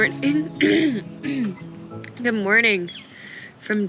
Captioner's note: clears throat